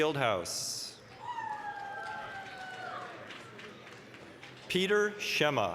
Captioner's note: applause, cheering